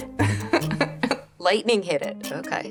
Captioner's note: laughing